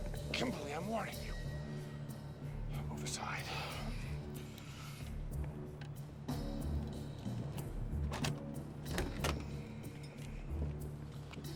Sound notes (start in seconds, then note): 8.1 click